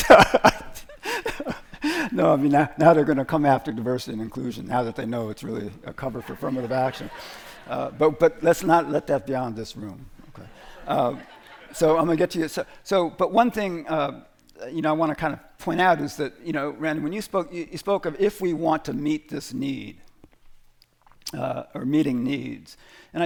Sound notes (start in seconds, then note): 0.0 laughs; 6.2 laughter; 10.3 laughter